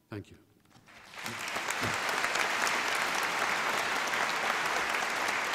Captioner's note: applause